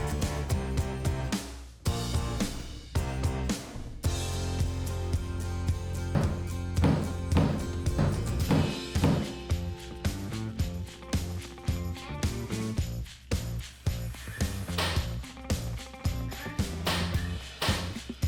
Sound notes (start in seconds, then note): 1.0 gentle upbeat music; 7.3 hammer knocking; 10.7 upbeat music